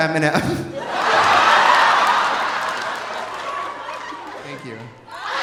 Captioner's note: laughs; audience laughing; audience applauding